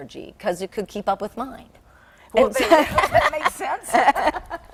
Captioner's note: laughing